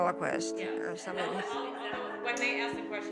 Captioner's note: laughing